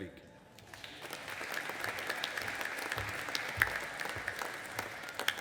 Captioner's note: audience applauding